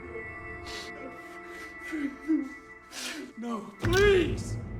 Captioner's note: Lance sobbing